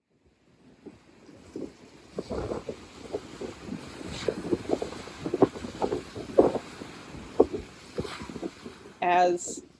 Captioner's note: sound of waves hitting the lake shore and wind blowing